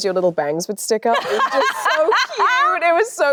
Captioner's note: Anne laughs cheerfully